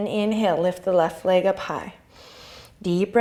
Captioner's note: inhale